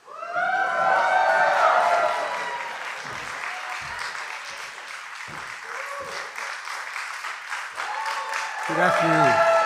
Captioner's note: applause